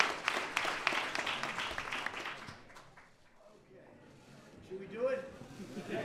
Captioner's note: applause